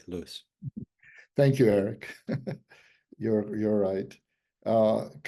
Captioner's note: laughs